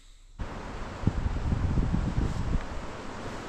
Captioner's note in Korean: 빗소리가 꽤 소란스럽다